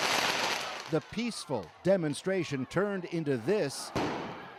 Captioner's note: explosion